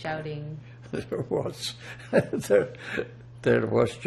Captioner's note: laughing